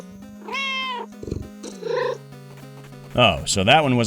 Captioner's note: meow